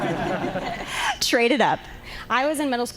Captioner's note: laughter